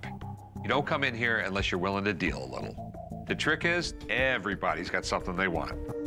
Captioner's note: none